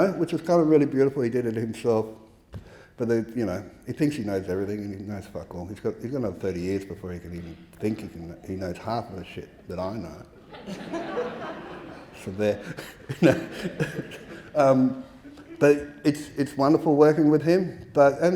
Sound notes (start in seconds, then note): 10.3 audience laughing